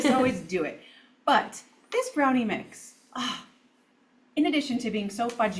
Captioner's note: sighs